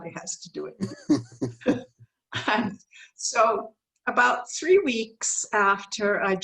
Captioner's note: laughs